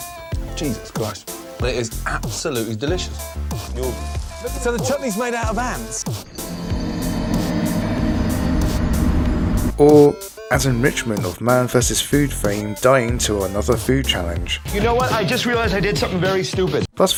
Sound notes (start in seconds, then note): 6.4 Dark Souls death sound